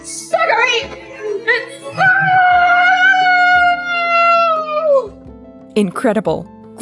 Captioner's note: screaming